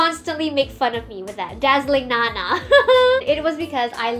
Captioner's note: cringe and laugh